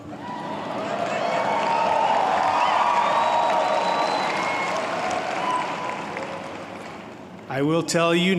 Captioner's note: applause